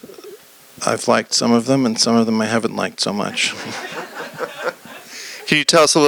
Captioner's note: laughter